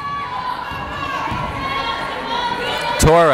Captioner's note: yelling